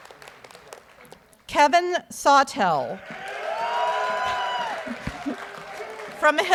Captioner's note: audience cheers